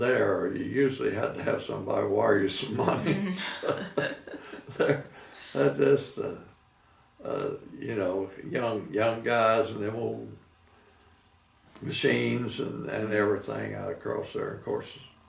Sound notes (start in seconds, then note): 2.8 laughing